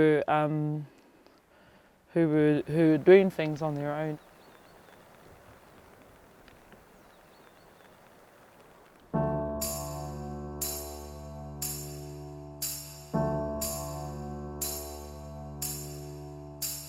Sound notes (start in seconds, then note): 5.3 low cracking sound; 9.1 sentimental music